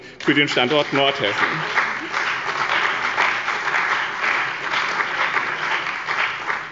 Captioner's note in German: Beifall bei dem BÜNDNIS 90/DIE GRÜNEN und der CDU